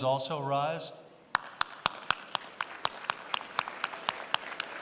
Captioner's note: applause